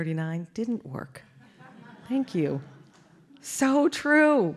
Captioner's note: laugh